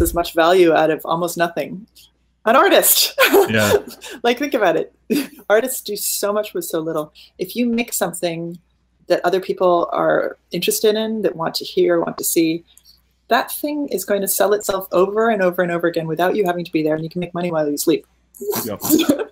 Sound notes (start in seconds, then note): 3.2 laughing; 18.5 laughing